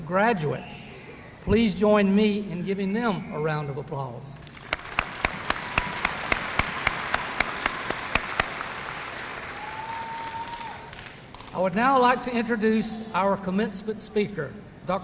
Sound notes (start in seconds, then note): 4.4 graduates applauding